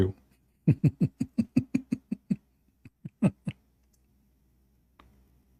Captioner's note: Ketawa